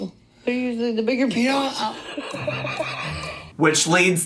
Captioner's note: laughing